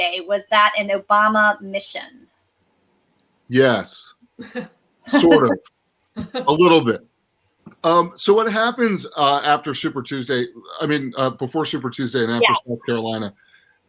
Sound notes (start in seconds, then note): 5.1 laughs